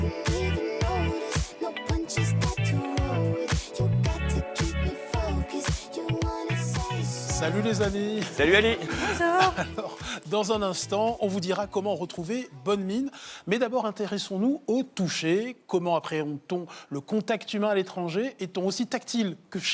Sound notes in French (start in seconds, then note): 8.4 rires